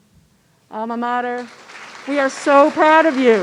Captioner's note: audience clapping